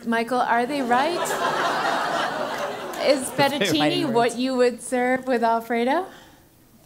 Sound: laugh

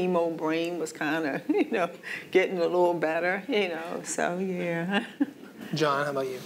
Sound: laughs

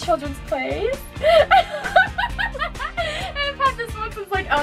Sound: laughter

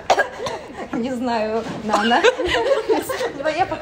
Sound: laughter

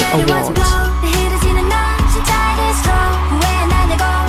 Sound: cheers

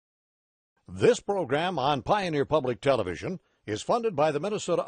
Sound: voiceover

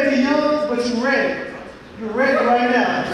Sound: audience laughing

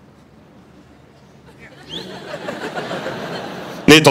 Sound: laughter

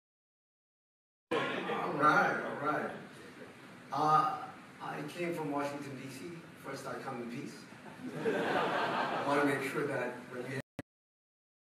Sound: audience laughter

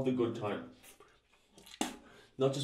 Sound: spit

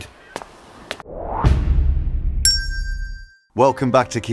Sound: whoosh, bang and bell sounds

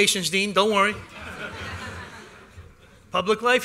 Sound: laughter

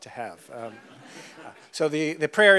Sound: audience laughs

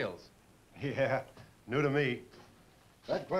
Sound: chuckles

